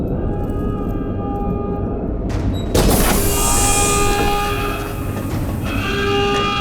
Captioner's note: alarm sounds